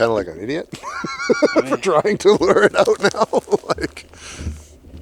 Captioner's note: laughs